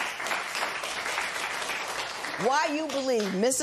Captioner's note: applause